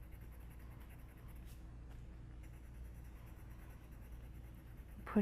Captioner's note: pencil scratching